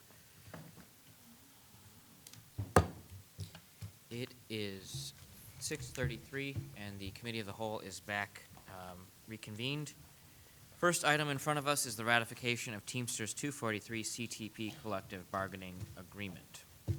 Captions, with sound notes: (gavel bangs) - It is 6:33, and the Committee of the Whole is back reconvened. First item in front of us is the Ratification of Teamsters 243 CTP Collective Bargaining Agreement.